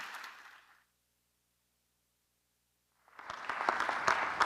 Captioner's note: applause